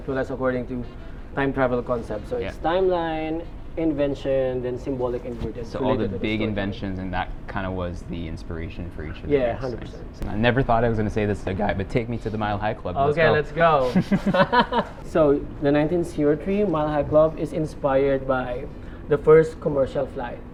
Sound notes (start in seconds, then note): 13.8 laughs